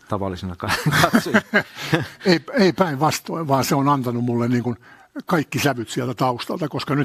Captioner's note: naurua